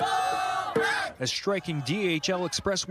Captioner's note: shouting